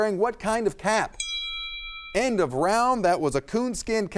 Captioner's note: timer dings